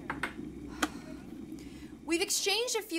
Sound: Rose sighs and stops the electric kettle

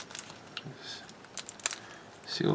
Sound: rustling plastic

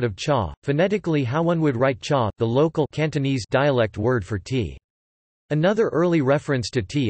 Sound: Cantonese

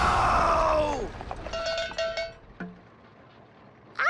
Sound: cow bell clanks

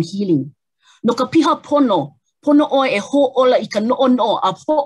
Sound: speaks native language

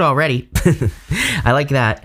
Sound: giggling

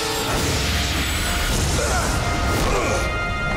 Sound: grunting

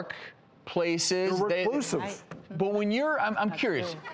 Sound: laughter

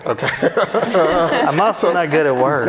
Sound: laughing

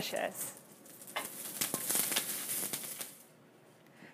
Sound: sizzling Sound

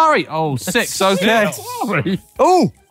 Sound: stifled laughter

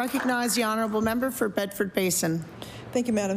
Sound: applause

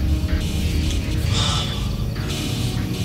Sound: gasps

